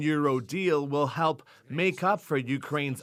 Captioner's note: speaking alternate language